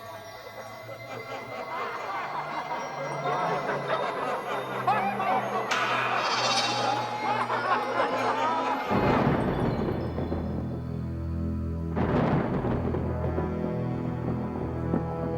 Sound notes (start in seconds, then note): 1.5 men laughing; 11.0 suspenseful music